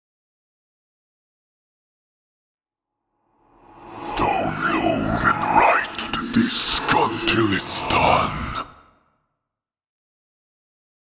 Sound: demon voice

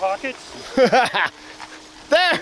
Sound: laughing

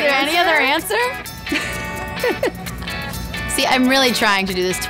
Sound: laughing

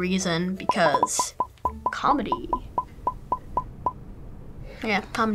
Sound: emojis popping

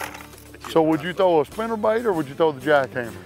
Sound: chuckles

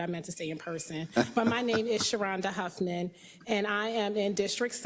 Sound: laugh

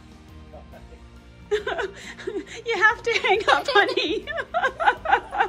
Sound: chuckles; laughs

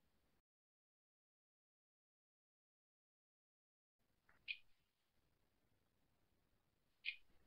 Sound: silence

